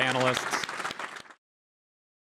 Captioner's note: applause